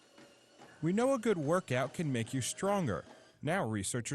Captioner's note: voiceover